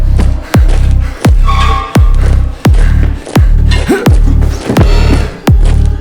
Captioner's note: marching sound; menacing music continues